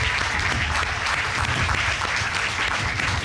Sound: applause

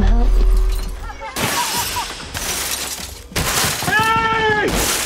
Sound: glass smashing

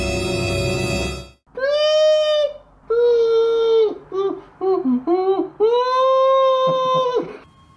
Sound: whimpers

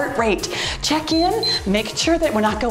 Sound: timer beeps

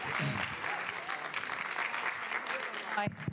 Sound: applause

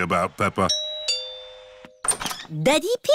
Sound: doorbell rings

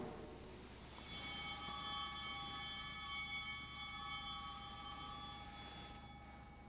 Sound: bell ringing

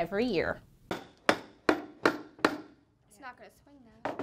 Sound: sound of hammering

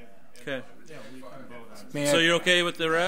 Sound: overlapping chattering

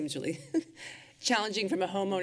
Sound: chuckles

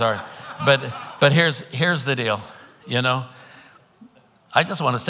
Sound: congregants laughing

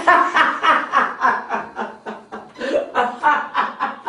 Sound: laughing

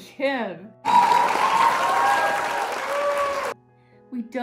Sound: people cheering; people clapping

